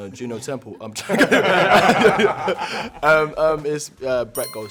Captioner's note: cast lauging